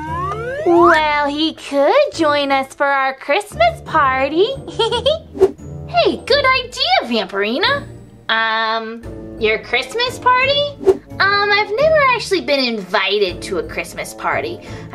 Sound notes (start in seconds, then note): 0.0 sliding flute; 5.9 whoosh